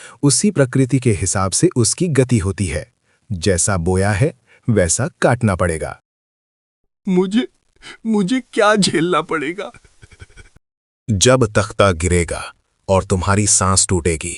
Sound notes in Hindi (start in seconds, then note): 5.6 सांसें उखड़ रही हैं